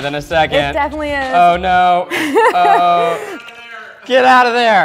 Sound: laughter

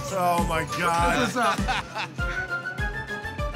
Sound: laughs

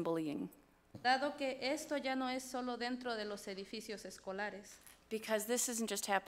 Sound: speaks foreign language

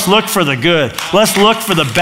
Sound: applause

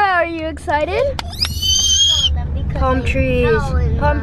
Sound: squeals

